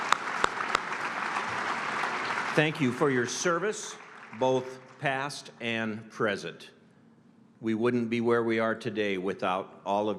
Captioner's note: applause